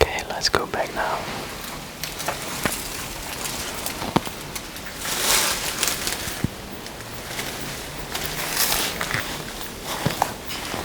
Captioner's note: creaking dry leaves